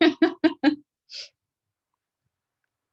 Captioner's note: laughs